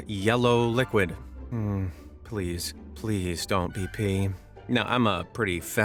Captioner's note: sighs